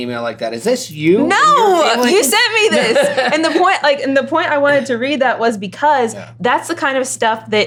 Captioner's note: laughter